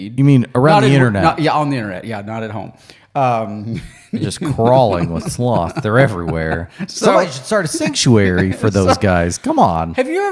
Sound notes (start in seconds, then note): 3.7 laughs